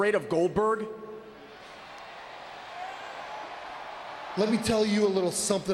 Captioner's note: audience cheering